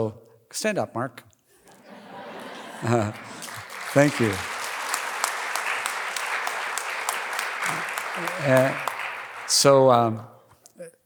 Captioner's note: applause